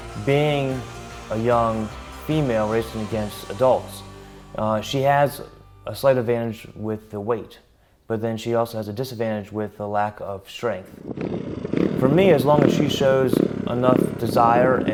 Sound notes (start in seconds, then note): 11.0 engine revving